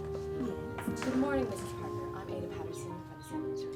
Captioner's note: speaking faintly